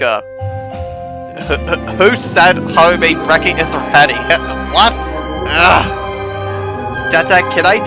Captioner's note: groans